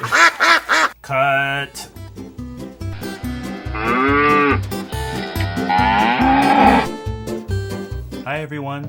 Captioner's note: cow sound effect